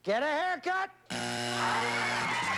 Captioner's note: buzzer